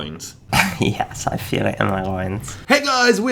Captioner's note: giggles